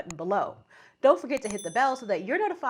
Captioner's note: dinging